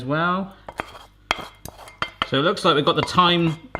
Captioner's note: scraping